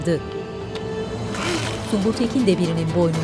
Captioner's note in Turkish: Boyun kırılma sesi